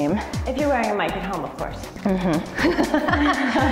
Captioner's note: both laugh